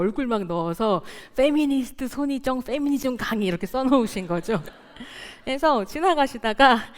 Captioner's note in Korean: 웃음